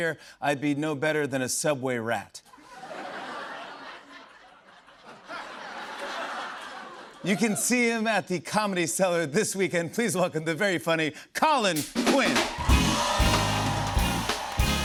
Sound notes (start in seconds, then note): 2.5 laughter; 12.2 cheers and applause